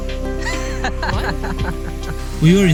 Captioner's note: laughing